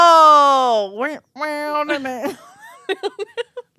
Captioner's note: humming; laughing